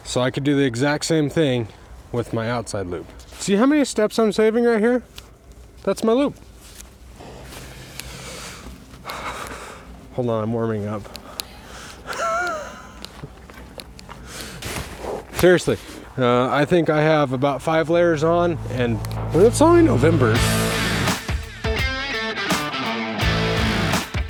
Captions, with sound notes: So I could do the exact same thing with my outside loop. See how many steps I'm saving right here? That's my loop. (inhaling and exhaling) Hold on, I'm warming up. (laughing) Seriously, I think I have about five layers on and it's only November. (upbeat metal rock music)